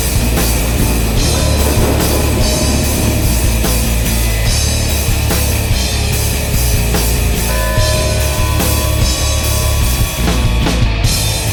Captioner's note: thunderclap; funeral bells